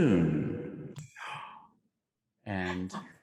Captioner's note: gasps